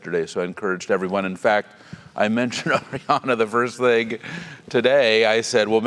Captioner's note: laugh